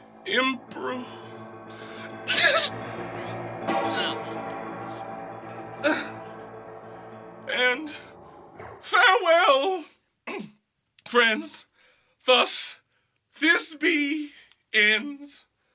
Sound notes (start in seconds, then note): 2.3 Thisby moans